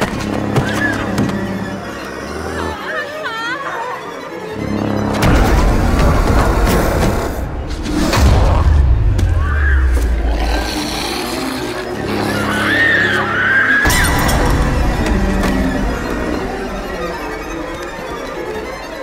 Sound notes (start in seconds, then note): 0.3 snarls and screams; 9.6 Pilar screams; 14.0 bottle breaks